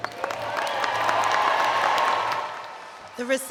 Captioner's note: cheering and Applause